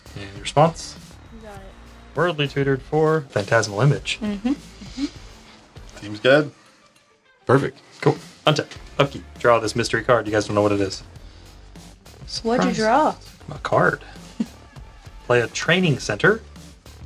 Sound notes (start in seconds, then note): 13.0 sarcastically; 13.5 playfully